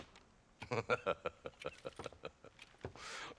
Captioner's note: laughs